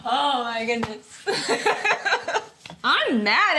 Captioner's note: laughs